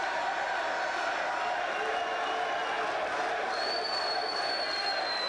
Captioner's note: crowd chants "Sid"